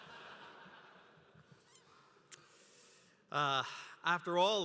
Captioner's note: laughter